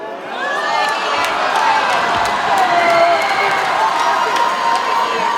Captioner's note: audience cheers and applauds